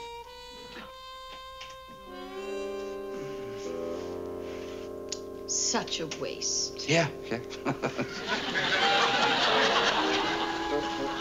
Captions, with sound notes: -Such a waste. -Yeah, yeah. (chuckles)